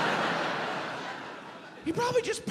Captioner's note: audience laughs